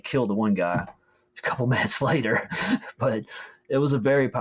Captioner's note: chuckles